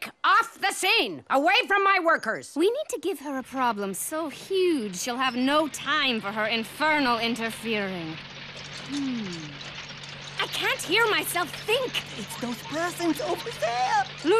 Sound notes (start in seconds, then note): 10.5 construction noises